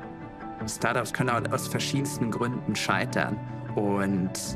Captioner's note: non-english speech